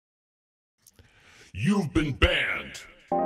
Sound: modulated voice; synth music

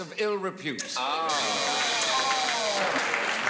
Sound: buzzing

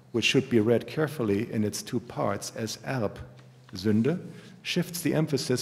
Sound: german

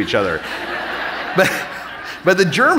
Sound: audience laughing

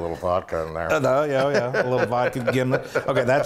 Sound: laugh

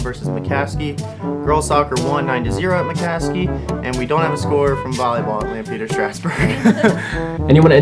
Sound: laughter

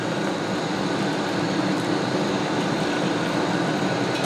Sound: sound of very loud oven fan running

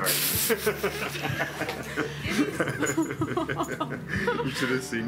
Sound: group laughing

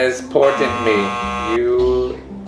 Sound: buzzer buzzing

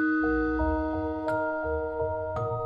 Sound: none

